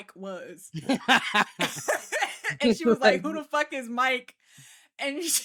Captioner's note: laughing